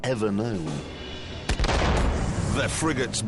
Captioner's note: gunshot